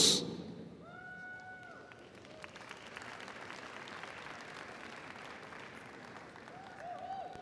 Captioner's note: audience cheering; audience applauding